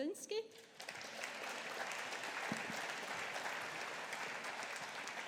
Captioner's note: audience applauding